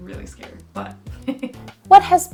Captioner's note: laughs